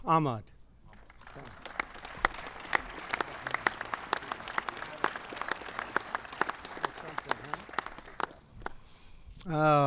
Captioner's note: applause